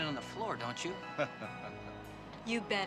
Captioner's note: Captain laughing